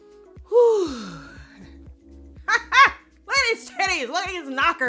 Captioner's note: sighs; shouts